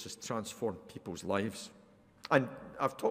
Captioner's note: none